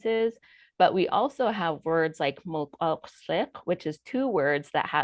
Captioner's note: speaking foreign language